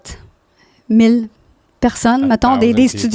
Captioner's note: in french